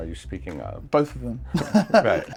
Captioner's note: chuckling